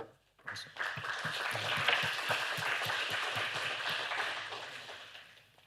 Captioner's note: applause